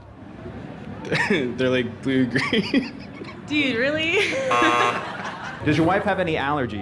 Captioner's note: laughs